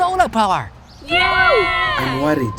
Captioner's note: cheering